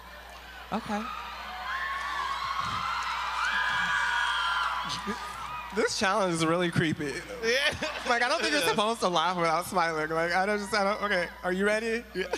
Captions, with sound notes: >> OKAY. [APPLAUSE] >> THIS CHALLENGE IS CREEPY. I DON'T KNOW YOU ARE SUPPOSED TO